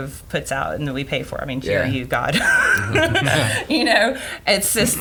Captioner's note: laughs